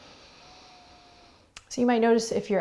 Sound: heavy breathing

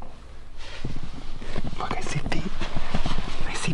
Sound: still whispering

